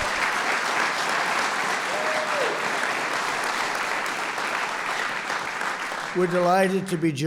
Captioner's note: applause